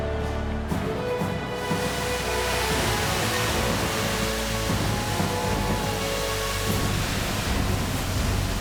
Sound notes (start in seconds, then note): 2.5 fireworks hiss